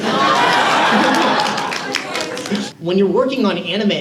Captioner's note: audience cheers